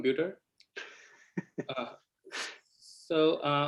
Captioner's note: laughter